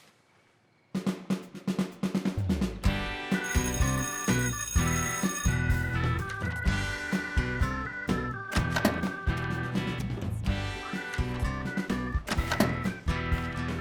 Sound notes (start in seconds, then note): 1.0 bell blaring; 1.0 lively music